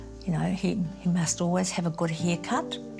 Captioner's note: none